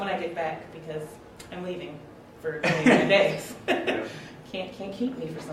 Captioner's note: laughs